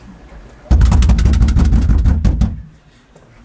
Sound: knocking

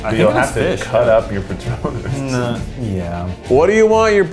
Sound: laughs

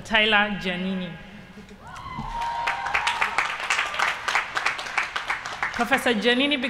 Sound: applause

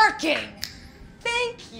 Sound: snap

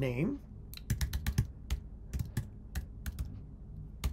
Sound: keyboard clicking

